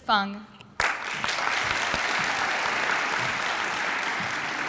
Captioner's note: audience applauds